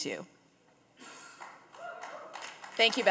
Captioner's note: audience cheering and applauding